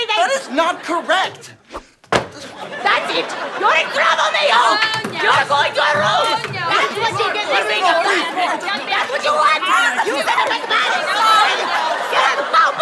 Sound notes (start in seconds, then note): 2.0 thud; 6.9 commotion